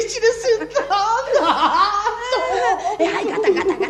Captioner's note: laughs